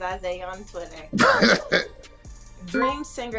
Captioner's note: laughs